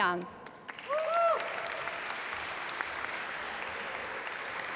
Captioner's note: audience applaud